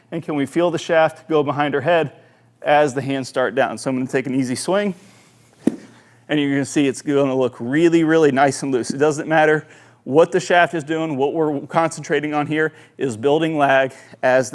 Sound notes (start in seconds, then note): 5.6 club tapping